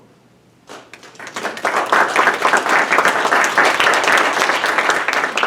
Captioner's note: audience applauding